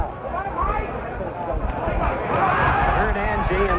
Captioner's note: crowd cheers